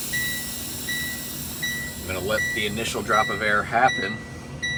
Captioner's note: air brakes releasing